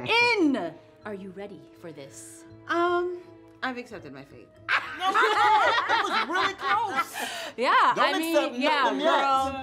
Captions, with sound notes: Are you ready for this? - I've accepted my fate. (all laughing) - That was really close! - Yeah, I mean- - Don't accept nothing. - Yeah, no.